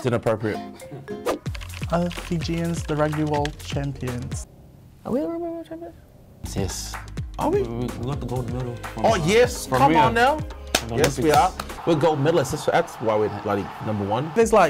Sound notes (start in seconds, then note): 10.5 clapping